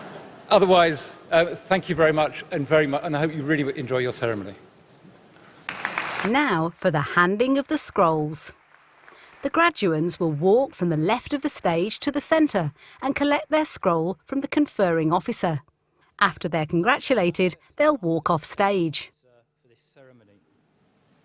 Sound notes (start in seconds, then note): 5.4 applause